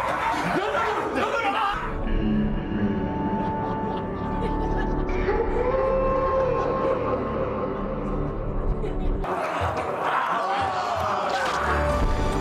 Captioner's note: yelling